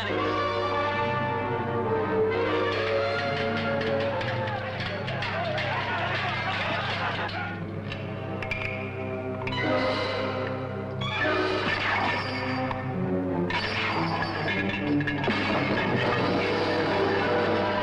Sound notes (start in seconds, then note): 0.2 suspenseful orchestral music; 2.9 swords clashing; 3.2 men shouting; 11.9 chains shattering